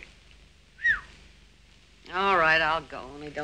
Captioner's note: whistling